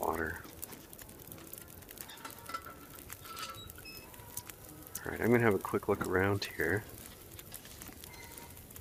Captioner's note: lantern clanking